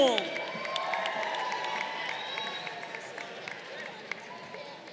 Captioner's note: crowd cheering